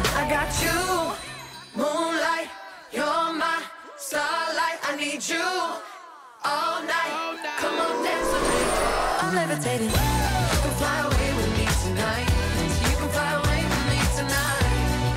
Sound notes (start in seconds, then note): 10.0 woo